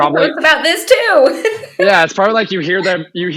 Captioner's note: laughs